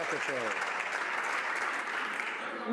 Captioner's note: some Applause